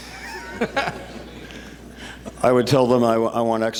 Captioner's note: laughter